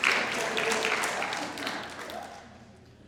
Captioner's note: audience applauding